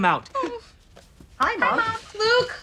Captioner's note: voiceover